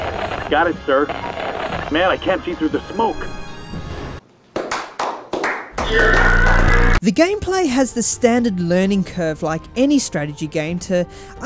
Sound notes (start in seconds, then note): 4.5 slow claps; 5.8 that one scream that goes eeeerrruuuugggghhhrhrhhhaaaaaaaaa